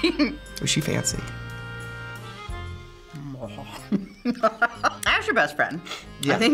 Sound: laughs

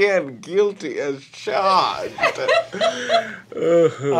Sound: chuckling; laughter

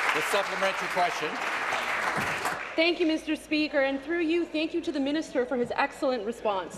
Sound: applause

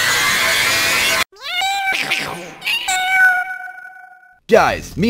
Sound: demonic screaming; cosmic meowing

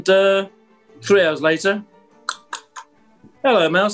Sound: knocking

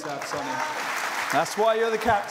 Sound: cheers and applause

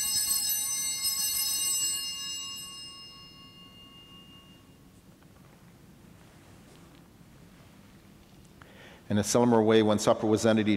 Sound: bellringing

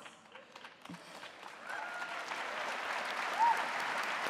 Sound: audience applauding

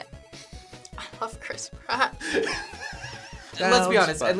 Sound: React laughs

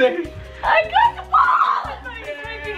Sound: shouts

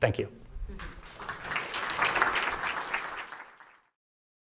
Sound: applause

